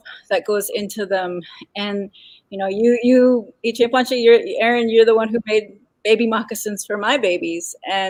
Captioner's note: speaking Dakota